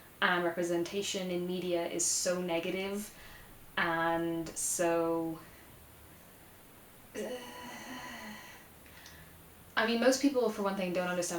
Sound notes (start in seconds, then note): 7.1 groans extensively